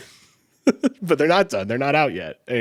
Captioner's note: chuckles